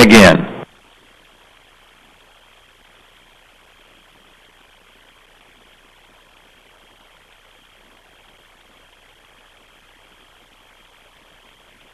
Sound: no speaking

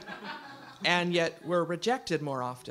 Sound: audience laughs

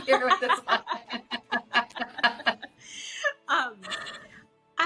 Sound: both laughs

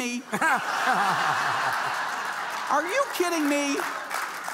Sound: audience laughing

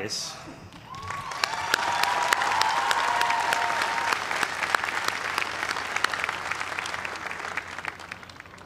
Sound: cheers and applause

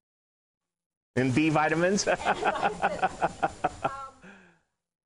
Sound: laughing

